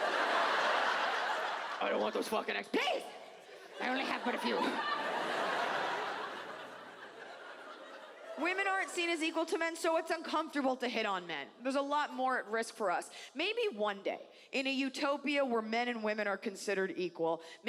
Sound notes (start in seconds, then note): 5.5 audience laughs